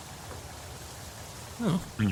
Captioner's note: SFX: Mechanical hissing